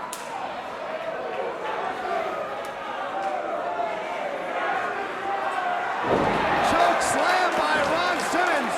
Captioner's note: crowd chatter